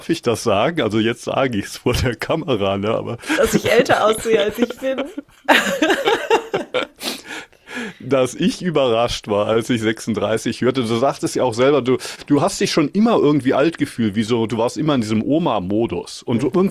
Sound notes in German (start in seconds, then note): 3.3 gelächter; 6.1 schnauben